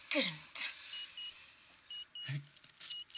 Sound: watch beeping

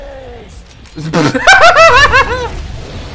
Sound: maniacal laughter

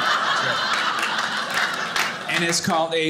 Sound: audience laughing

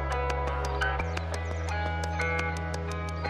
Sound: upbeat electronic music; birds chirp

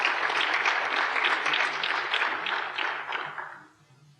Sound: applause

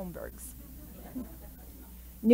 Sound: light laughter

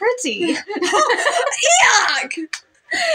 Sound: laugh

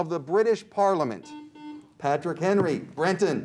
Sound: buzzer beeps

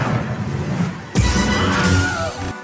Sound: Wilhelm scream

